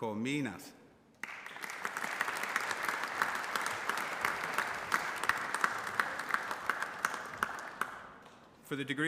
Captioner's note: applause